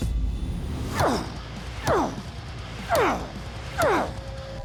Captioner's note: grunting